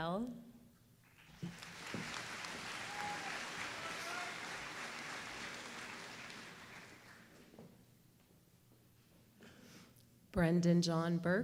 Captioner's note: applause